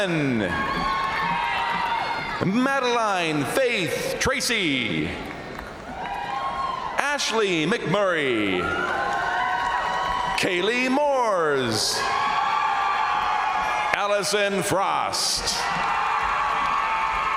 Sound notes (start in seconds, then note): 0.0 crowd applauding; 0.3 crowd cheering; 5.1 crowd cheering; 8.3 crowd applauding; 8.3 crowd cheering; 11.7 crowd applauding; 11.7 crowd cheering; 15.2 crowd applauding; 15.2 crowd cheering